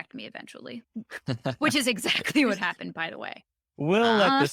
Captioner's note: laughs